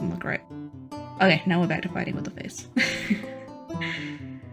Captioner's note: laugh of pain